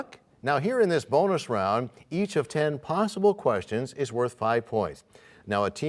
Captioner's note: none